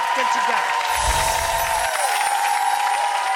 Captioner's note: applause